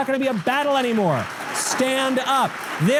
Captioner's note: audience applause